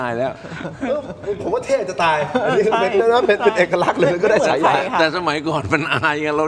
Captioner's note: laughter